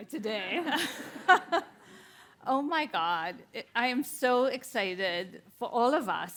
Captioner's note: chuckles